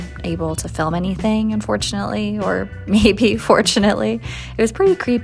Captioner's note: giggle